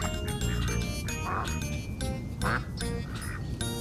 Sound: quacking

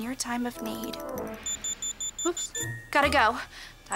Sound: beeping

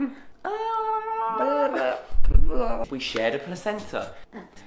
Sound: making silly noises; laughs

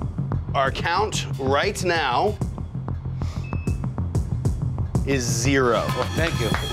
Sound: monitor beeping; hands clapping

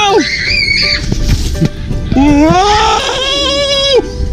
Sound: screaming

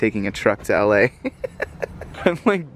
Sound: chuckling

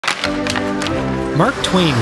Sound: hockey sticks hitting ice

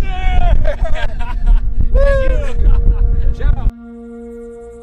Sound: laughter

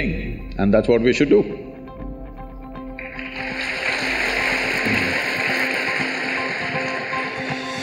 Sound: applause

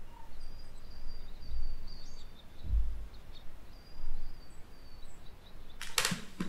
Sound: birds twittering; footsteps

